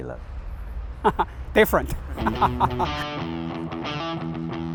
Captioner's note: laughs